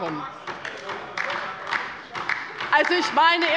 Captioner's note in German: Beifall bei der LINKEN